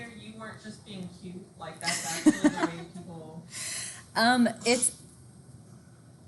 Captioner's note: instructor laughing